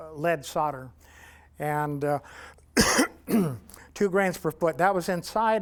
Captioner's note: coughs